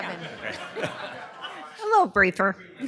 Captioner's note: laughter